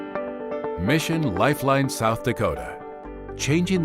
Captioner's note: voiceover